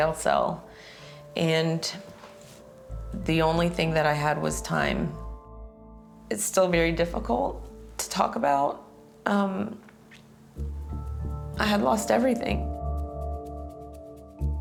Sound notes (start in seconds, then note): 6.0 voice breaking